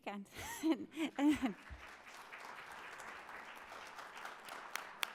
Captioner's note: audience applauding